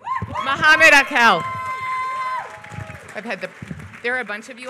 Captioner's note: applause